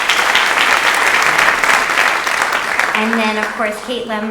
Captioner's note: audience applauds